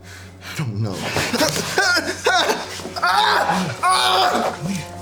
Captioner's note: prisoner whimpering